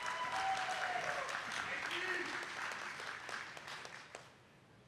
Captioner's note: attendees clapping